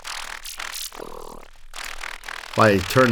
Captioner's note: audio modulates more prominently